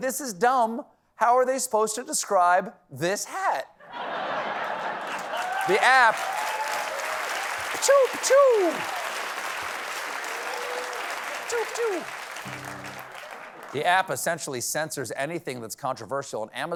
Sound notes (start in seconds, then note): 3.8 laughter; 5.2 applause